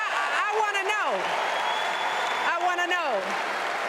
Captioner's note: cheers and applause